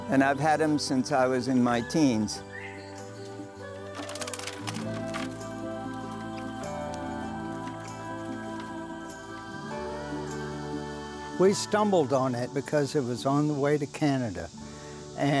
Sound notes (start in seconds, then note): 3.9 wings flapping; 6.7 mellow vocalizing music